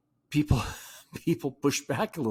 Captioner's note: laughs